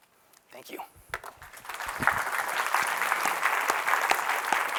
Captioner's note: applause